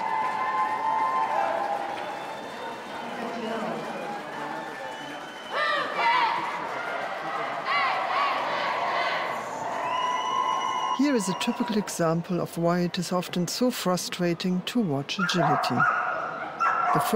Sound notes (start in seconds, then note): 0.2 crowd cheering and clapping; 5.7 Team Canada chanting and whistling